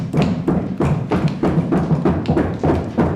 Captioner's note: crowd snapping their fingers